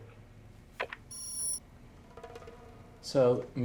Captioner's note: beep